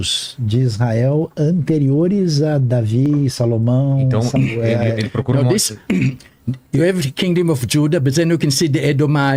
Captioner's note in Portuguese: limpando a garganta